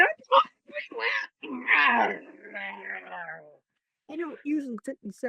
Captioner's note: growls